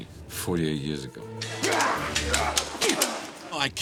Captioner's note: growling